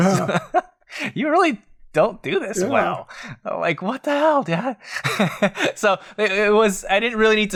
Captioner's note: laughs